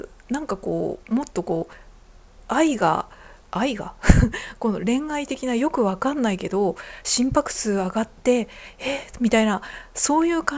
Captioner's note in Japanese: 笑い